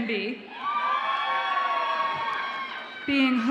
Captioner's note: audience applauds and cheers